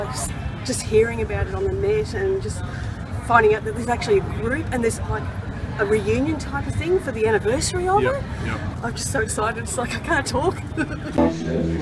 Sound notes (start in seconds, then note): 10.6 laughs